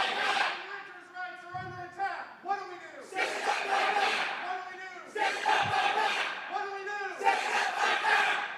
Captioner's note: crowd chanting